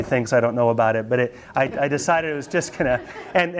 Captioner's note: students laugh